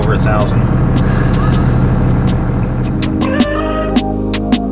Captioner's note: laughing